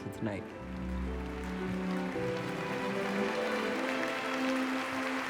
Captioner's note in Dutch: applaus